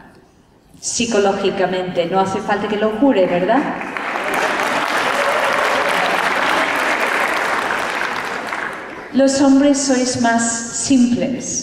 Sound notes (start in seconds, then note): 3.7 applause